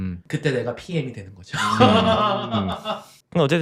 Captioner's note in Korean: 웃음